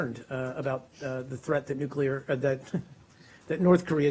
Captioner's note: laughing